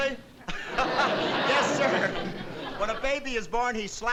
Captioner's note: laughs